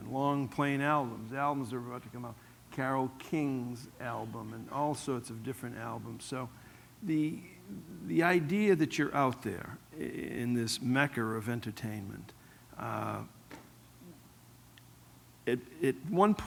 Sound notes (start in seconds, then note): none